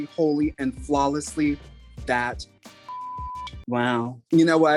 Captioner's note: beep